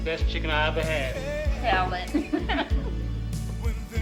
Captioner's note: laughs